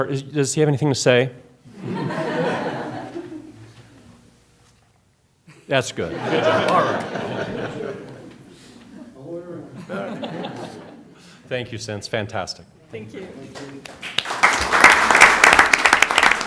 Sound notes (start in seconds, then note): 6.0 laughter; 9.7 laughter